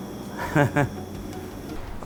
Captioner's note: laugh